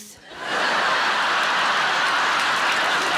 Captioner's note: audience laughing; audience clapping